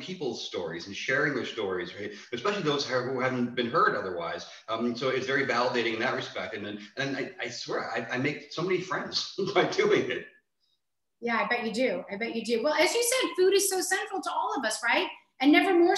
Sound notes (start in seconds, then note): 8.5 chuckles